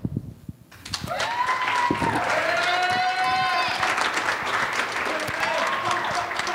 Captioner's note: audience applauds and cheers